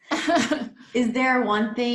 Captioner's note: laughs